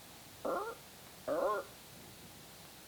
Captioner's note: parrot screeches